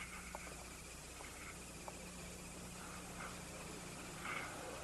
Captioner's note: henry wheezing